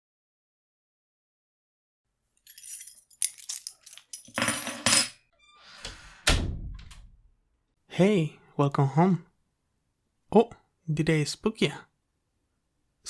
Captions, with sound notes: [Distant sound of keys jingling and door swinging open] Welcome home! Oh-! Did I spook ya?